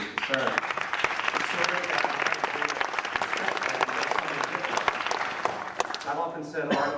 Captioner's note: applause